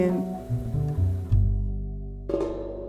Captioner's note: soundbite of archived recording